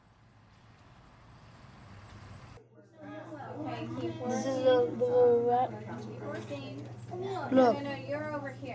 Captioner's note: background noise in a classroom